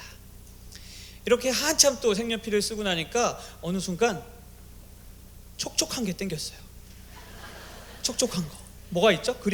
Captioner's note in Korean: 웃음